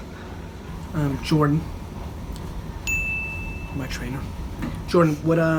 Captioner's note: bell dings